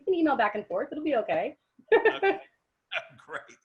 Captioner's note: giggles